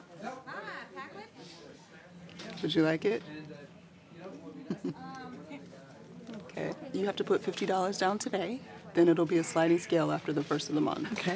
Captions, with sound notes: - Would you like it (laughs)? Okay, you have to put 50 dollars down today, then it'll be a sliding scale after the first of the month.